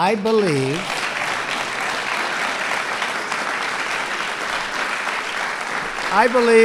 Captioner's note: applause